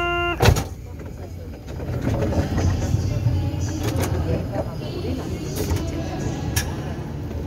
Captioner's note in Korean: 출입문 열림